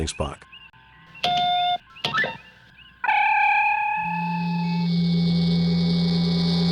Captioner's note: transporter Hum; computer Buttons; Transporter Hum Starts to arc and zap loudly!